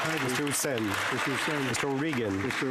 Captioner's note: some Applause